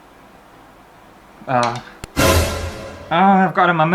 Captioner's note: alert